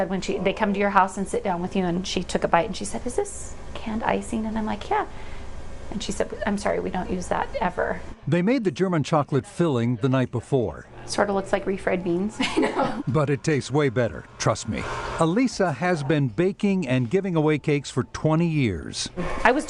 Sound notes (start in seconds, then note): 12.4 chuckles